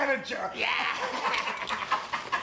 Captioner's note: laugh